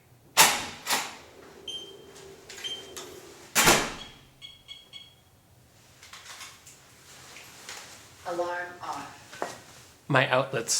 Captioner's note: beep beep beep